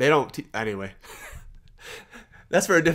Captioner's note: laughs